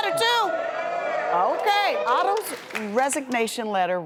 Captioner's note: audience groans